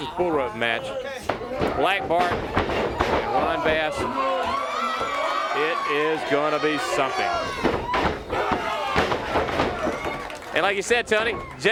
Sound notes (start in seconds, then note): 3.8 crowd cheering; 7.6 crowd chatter